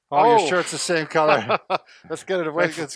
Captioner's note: laughs